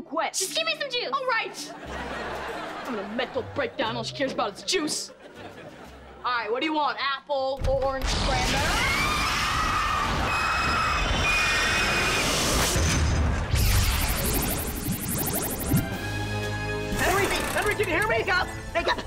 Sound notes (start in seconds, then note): 10.2 shrieking